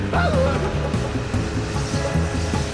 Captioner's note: none